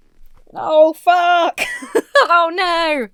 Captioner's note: laughs